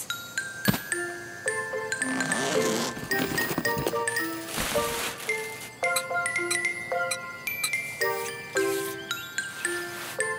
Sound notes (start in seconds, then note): 0.3 fun playful music; 2.0 zipping; 2.1 rustling; 5.8 hammering